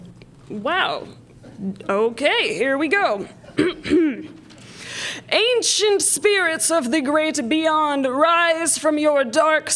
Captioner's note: spooky voice